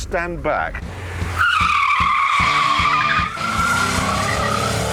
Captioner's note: tyres squeal